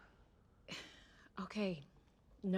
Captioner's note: sighs